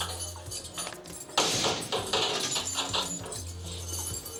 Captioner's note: door slams